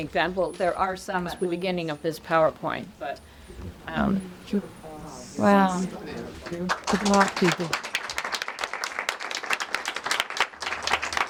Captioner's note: audience claps